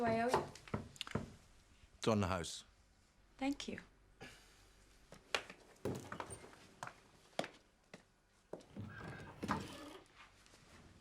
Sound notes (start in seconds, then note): 6.9 door creaking